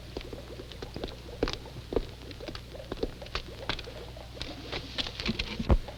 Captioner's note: chemicals bubbling